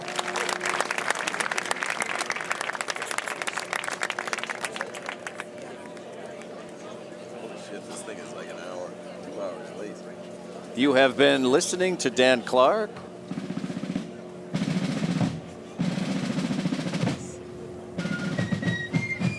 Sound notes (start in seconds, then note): 5.1 applause